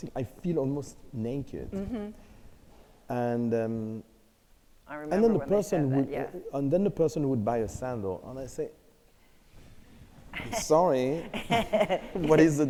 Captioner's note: laughter